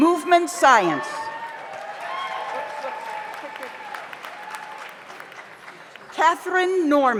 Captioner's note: audience cheers; audience applauds